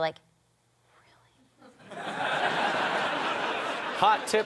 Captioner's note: whispering; audience laughter